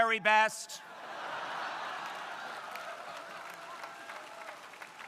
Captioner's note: crowd laughing